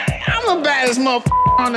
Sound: beep

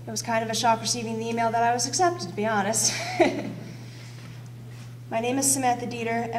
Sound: laughs

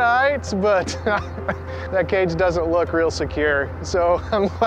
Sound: laughs

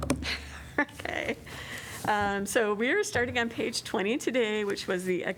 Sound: laughter

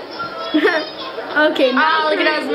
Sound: laughing

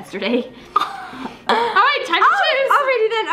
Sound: laughs

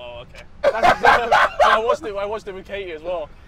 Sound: JJ Laughs

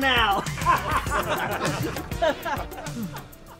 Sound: laughing

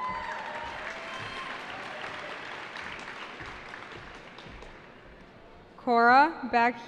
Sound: cheering

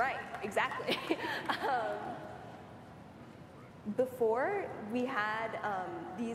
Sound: applause

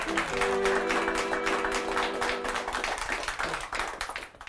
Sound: applause

